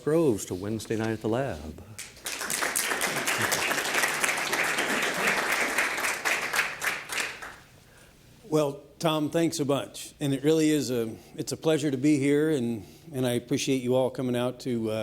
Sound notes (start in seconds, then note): 1.9 applause